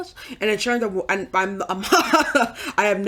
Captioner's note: laughs